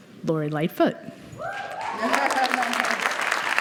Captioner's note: cheering and applause